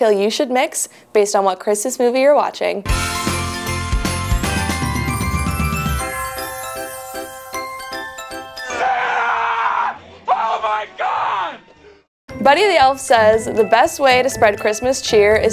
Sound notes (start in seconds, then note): 2.9 festive Christmas music; 8.6 Buddy screams